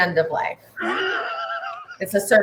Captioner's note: laughs